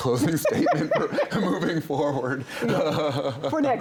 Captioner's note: laughs